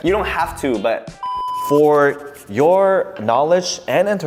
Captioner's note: TV beeping